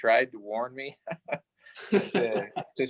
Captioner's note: laughing